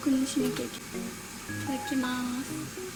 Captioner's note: sound of frying